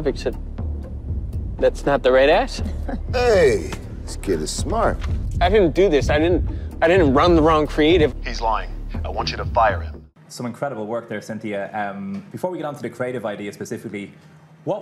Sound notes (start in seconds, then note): 2.6 detective chuckling